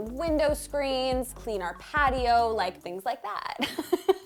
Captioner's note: laughing